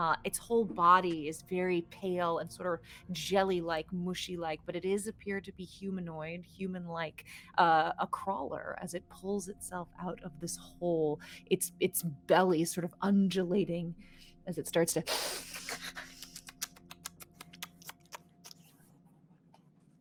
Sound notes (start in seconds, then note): 16.2 hisses and clicks